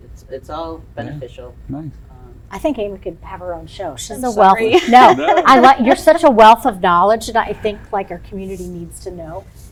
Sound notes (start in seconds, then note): 4.7 chuckles